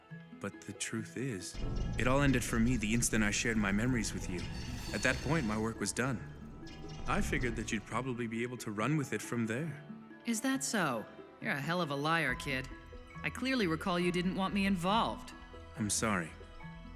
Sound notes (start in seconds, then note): none